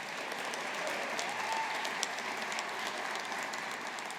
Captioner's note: audience applauding